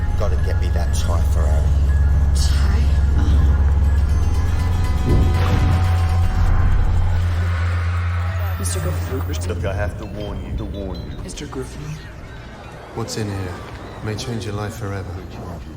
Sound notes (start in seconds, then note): 9.4 echoing